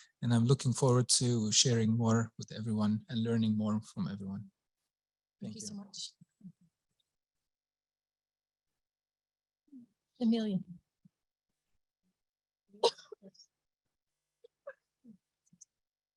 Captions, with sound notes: I'm looking forward to sharing more with everyone and learning more from everyone. Thank you. -Thank you so much. [silence] Emilia. [silence]